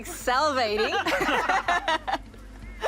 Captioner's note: all laugh